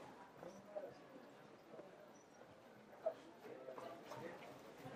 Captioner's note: people chattering faintly